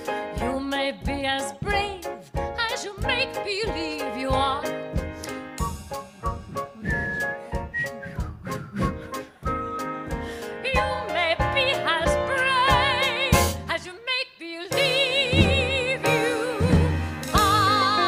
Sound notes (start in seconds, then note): 6.5 whistling